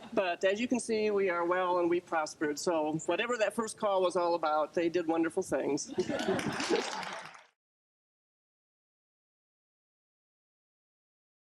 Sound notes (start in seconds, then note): 6.0 applause